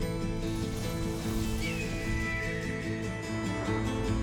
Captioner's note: hawk screeches